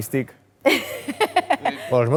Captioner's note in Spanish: ríe